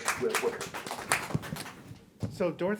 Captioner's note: group applauding